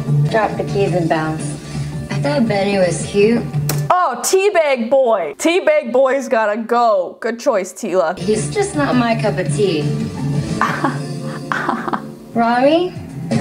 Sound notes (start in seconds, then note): 10.5 laughs